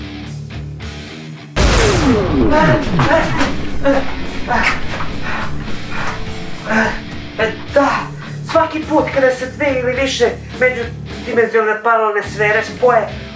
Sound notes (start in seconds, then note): 2.5 gasping and slightly scarcely moans